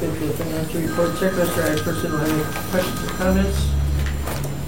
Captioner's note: phone ringing drowns out speaker